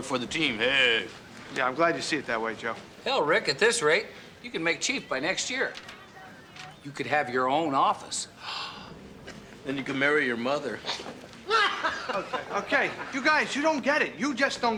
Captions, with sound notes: on the board for the team. Hey! Yeah, I'm glad you see it that way, Joe. Hell, Rick, at this rate, you could make chief by next year. You could have your own office. (gasps) Then, you could marry your mother. (laughter) BETTINA: Okay, okay. You guys, you don't get it. You just don't get it.